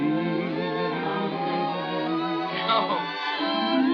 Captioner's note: laughing